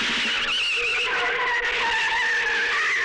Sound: tires Screeching

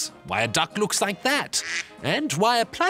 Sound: quacking

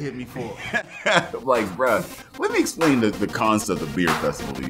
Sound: laughs

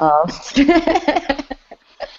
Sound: laughter

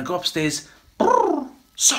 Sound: cooing

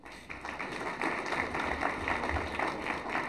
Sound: applause

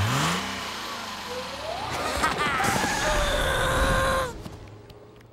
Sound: groaning

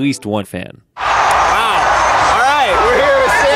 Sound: stadium noise

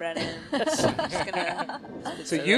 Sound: laughing

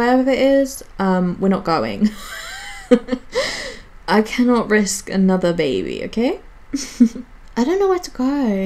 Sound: wheezes; giggles

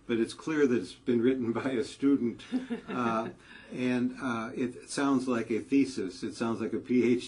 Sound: laugh

